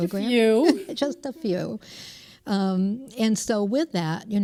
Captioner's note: laughter